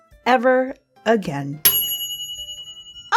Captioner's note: ding